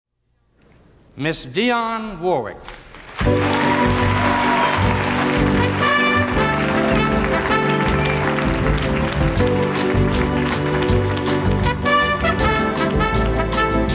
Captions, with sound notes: - Miss Dionne Warwick. (audience applauds and cheers) (bright music)